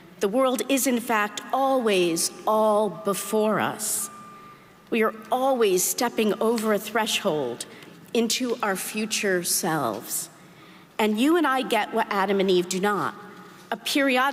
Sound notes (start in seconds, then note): none